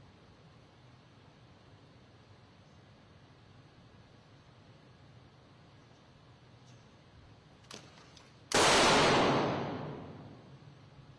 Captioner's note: gunfire